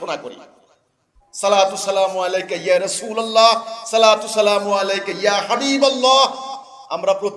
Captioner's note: Arabic